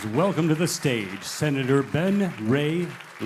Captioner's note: applause